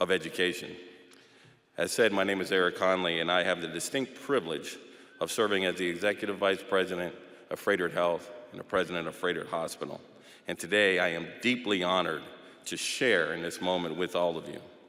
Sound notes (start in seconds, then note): none